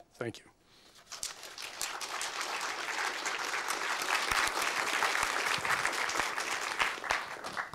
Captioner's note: applause